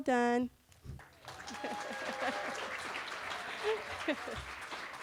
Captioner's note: cheering